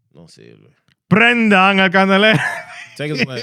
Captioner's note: non-english Speech